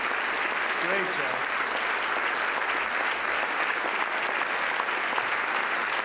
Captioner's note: applause